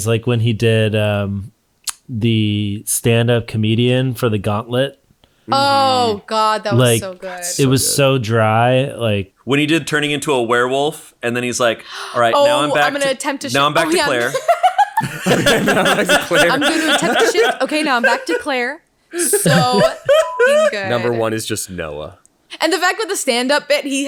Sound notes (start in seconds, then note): 13.5 laughs; 19.8 beep